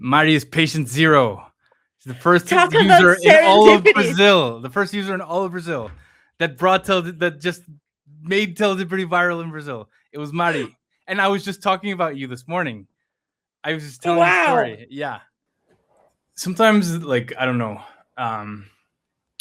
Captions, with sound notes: Mari is patient zero. -She's the first user- -Talk about serendipity [laughs] ... in all of Brazil. The first user in all of Brazil that brought Tele- that just made Teledipity viral in Brazil. It was Mari. And I was just talking about you this morning. -I was just telling a story. -Oh, wow. Yeah. Sometimes, like, I don't know, um,